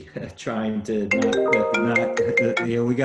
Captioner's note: phone ringing